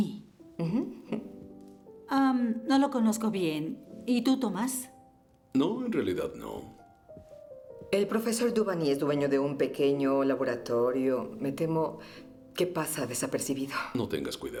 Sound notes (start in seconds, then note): none